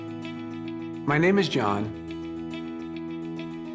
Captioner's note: voiceover